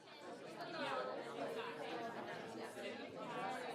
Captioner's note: people Chatter